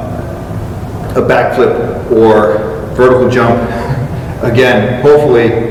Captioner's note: chuckles